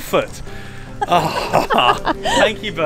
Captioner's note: laughs